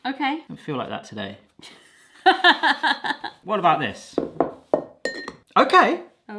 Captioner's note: laughter